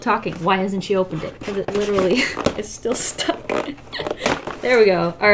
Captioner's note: laughs